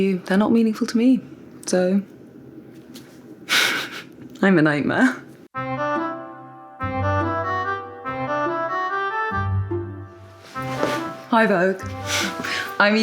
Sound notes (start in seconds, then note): 3.6 chuckles; 5.6 bright music